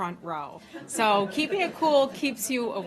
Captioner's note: laughter